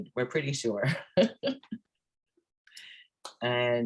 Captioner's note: laughs